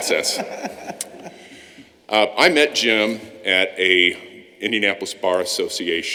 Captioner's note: laughter